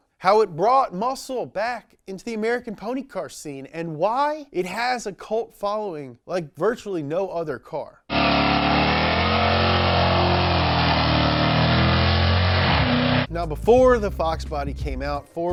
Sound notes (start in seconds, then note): 8.1 car engine revving